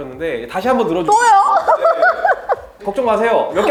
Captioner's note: laughs